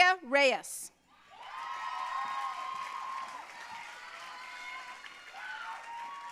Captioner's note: audience cheering and applauding